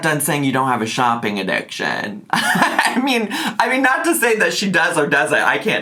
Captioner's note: laughing